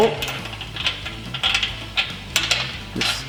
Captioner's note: clicking